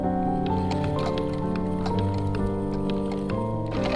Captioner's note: antique sewing machine ASMR